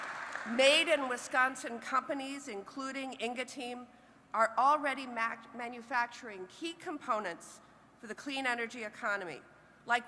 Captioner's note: applause